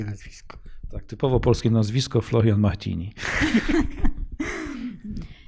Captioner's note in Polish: śmiech